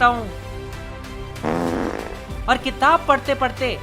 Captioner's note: fart noise